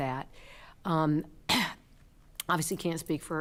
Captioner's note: clears throat